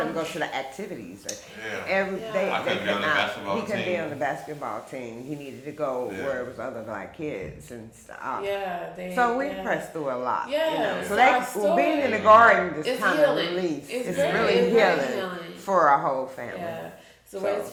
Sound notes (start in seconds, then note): 13.5 speaking faintly